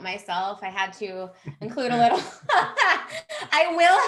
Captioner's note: laughs